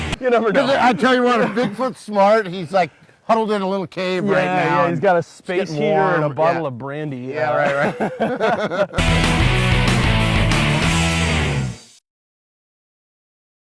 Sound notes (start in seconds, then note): 7.6 both laughing; 9.0 loud rock music